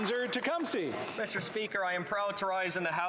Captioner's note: applause